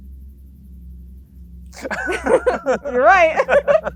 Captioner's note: both laughing